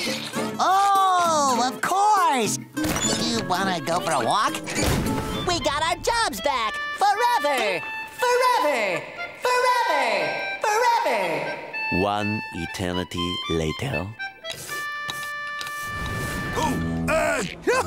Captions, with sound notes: Oh, of course, you want to go for a walk? We got our jobs back, forever. [echoing] Forever. Forever. Forever. Ooh, uh, no... [chuckles]